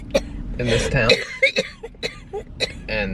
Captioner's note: coughing